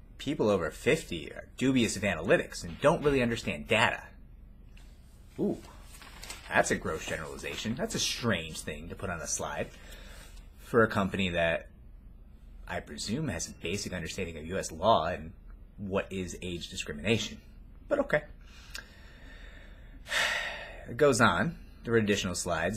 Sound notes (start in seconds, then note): 20.0 sighs